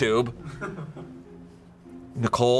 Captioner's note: crew member laughs